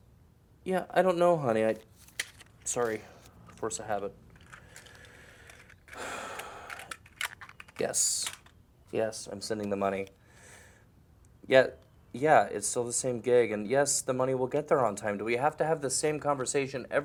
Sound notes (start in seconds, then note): 5.9 sighs